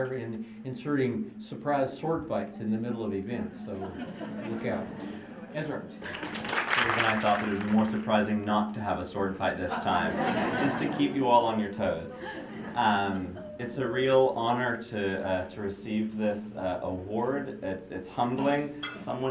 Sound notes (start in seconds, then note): 3.6 laughter; 6.0 applause; 9.6 laughter